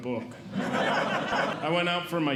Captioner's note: audience Laughing